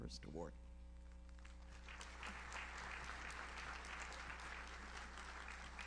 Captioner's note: audience applauds